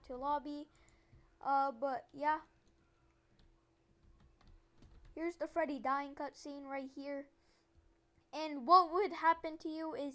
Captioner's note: silence